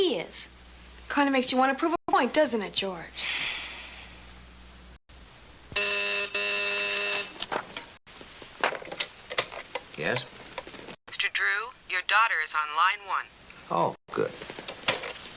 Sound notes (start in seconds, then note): 5.7 phone buzzes